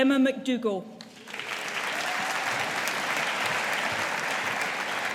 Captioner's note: audience applauding